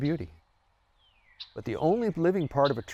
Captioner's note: bird chirping